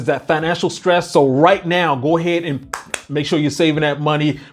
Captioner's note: claps